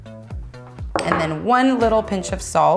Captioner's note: jars clink on wood